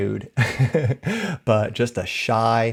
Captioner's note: chuckles